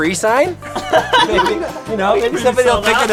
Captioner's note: laughter